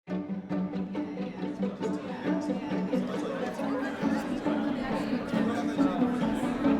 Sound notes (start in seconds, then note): 0.1 pleasant music; 1.0 people talking